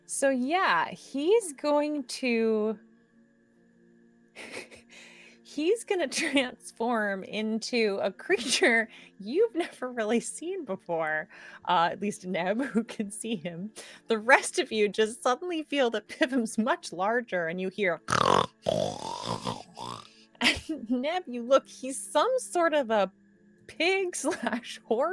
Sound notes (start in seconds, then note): 4.4 giggles; 18.0 Pivam snorts